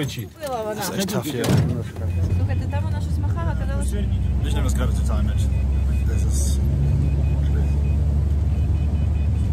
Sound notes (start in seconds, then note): 2.3 beeps